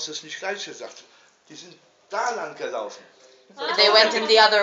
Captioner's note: speaking in German, pointing wildly